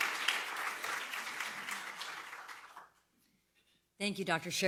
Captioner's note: applause